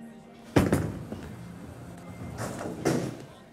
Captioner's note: ball thumps